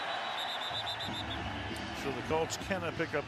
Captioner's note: whistle blowing